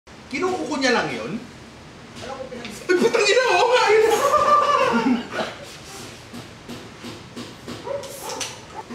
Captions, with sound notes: -Does he just use his nails? -As far as I know-- -F*ck! -[laughter]